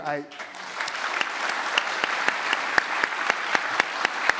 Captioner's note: audience applauds